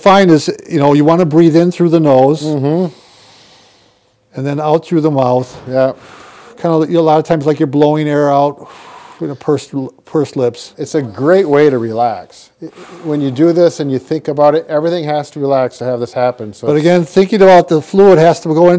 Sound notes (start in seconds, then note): 2.4 inhales; 5.8 exhales; 8.5 exhales